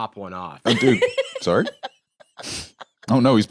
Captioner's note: laughs